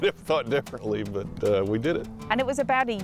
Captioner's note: laughs